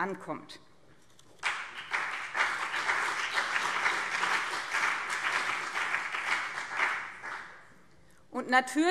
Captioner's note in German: Beifall BÜNDNIS 90/DIE GRÜNEN und CDU